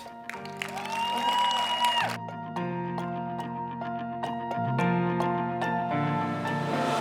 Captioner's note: light, uplifting music; cheering